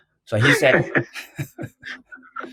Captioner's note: laughs